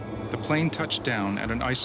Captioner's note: voiceover